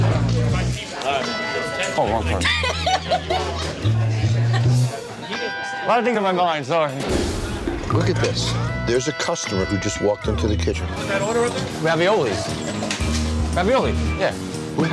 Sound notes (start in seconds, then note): 2.3 laughing